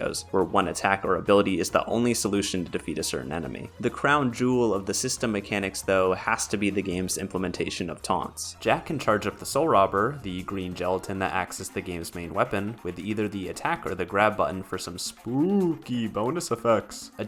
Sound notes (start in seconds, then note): none